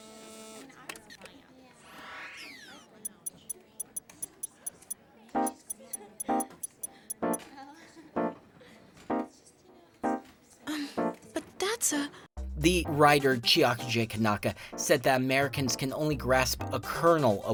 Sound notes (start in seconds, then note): 0.8 click; 1.9 electronic swirling; 2.9 typing sound